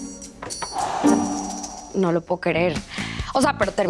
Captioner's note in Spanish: suspiro